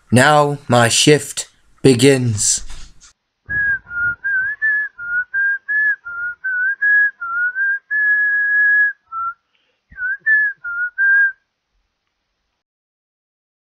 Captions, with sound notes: Now my shift begins! (Whistles theme)